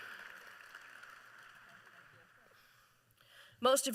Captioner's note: applause